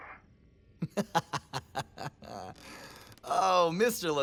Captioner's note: laughter